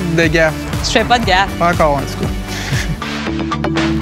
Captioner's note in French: Rires